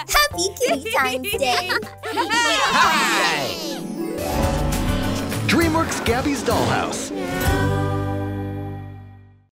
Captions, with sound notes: Happy Kitty-tines Day. [CHEERS] DreamWorks Gabby's Dollhouse. Meow.